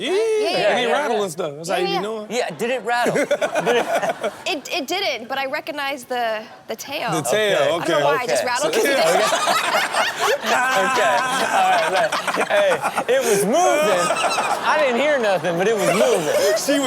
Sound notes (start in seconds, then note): 3.0 all laugh; 8.7 all laugh; 14.0 Steelo laughs